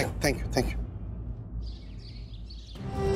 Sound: birds chirping

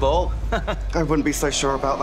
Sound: laughs

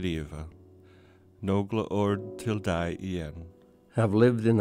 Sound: man speaking Norwegian; man speaking English

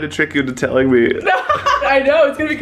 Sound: laughs

